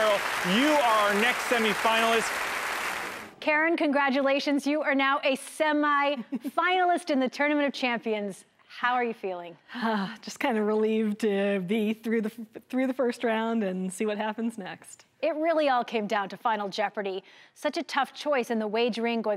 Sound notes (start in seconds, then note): 1.8 crowd clapping